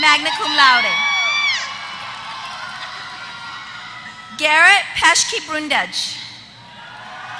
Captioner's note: applause